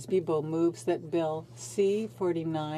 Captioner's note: speaking French